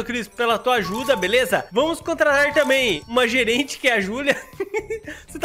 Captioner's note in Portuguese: risos